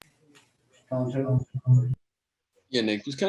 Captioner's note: PA announcement